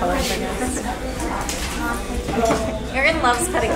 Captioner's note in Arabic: يضحك